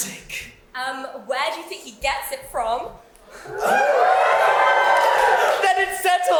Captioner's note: audience cheer